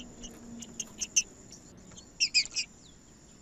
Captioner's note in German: trinca ferro cantando